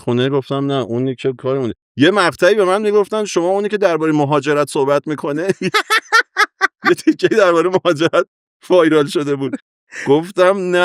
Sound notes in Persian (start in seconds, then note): 5.4 خنده